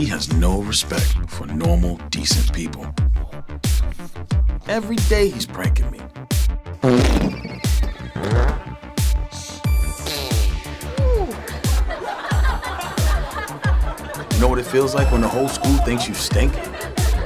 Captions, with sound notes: He has no respect for normal, decent people. Every day he's pranking me. (fart sound) (fart sound) (laughing) Know what it feels like when the whole school thinks you stink?